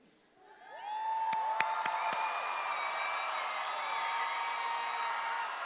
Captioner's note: audience applauding cheerfully